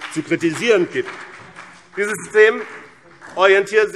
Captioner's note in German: Vereinzelter Beifall BÜNDNIS 90/DIE GRÜNEN